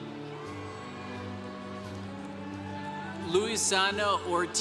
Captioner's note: congregation cheering